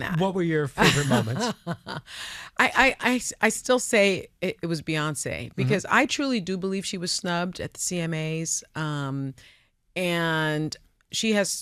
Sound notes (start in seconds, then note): 0.8 laughs